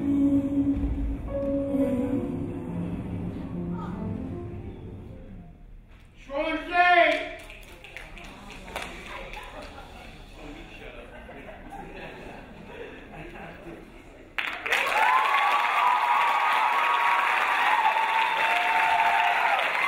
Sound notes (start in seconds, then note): 7.2 crowd snapping; 8.7 crowd laughing; 14.3 crowd applauding; 14.6 crowd cheering